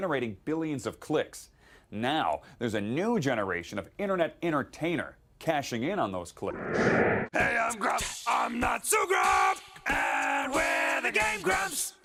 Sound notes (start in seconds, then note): 6.4 whoosh